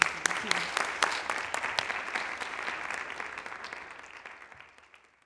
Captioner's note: applause